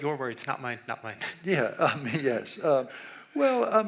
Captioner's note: laughs